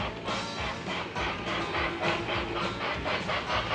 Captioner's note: train engine